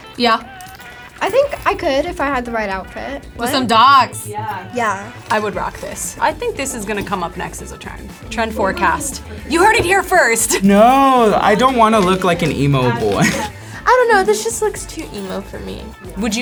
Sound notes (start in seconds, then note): 12.8 laughs